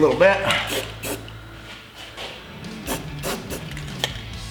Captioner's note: spraying